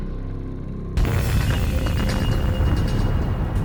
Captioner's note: explosion